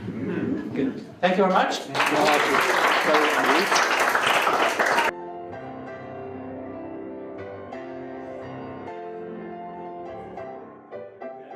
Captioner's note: applause